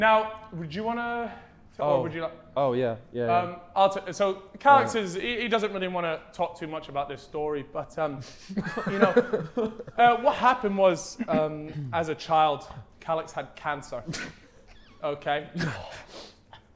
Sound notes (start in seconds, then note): 8.4 Sidemen laughing; 14.0 Vikram snickering